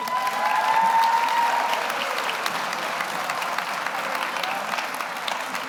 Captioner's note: audience cheers; audience applauds